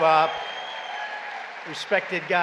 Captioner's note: applause